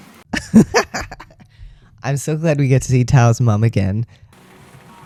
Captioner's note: laugh